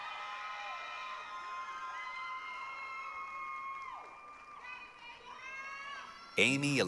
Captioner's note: applause, cheering